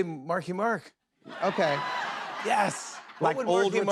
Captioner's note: laughter